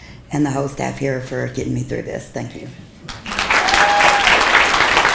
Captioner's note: people clapping